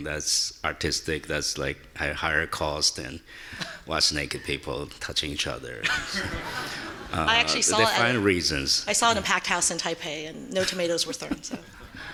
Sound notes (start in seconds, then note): 5.8 audience laughing